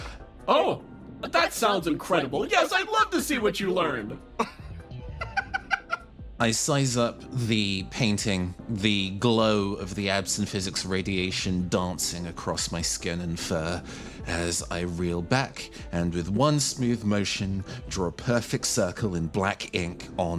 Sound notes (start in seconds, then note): 4.4 laugh